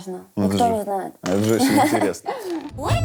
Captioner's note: laughs